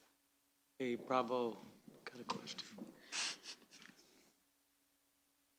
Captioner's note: chuckles